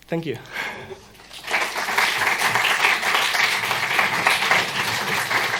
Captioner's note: applause